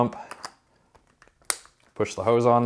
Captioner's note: hose clicking